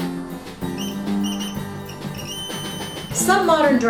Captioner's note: high pitched tone